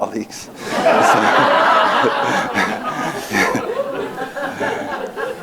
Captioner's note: laughing